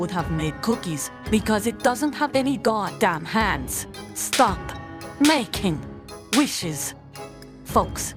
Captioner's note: slap